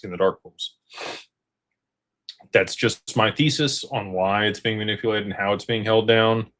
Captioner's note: snorts